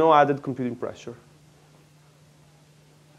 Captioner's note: pause